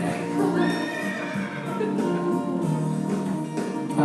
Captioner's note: horse neighs